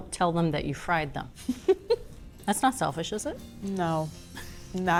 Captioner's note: laughs